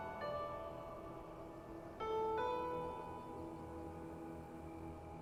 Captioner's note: wind rustling